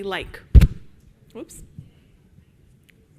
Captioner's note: microphone buzzes